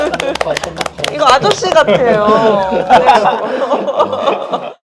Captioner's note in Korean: 웃음